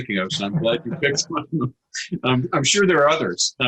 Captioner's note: laughs